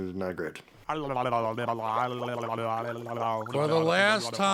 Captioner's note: gurgles